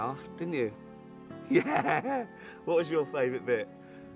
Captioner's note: laughing